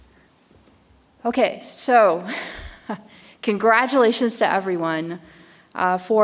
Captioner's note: chuckles